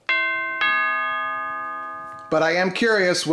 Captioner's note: doorbell rings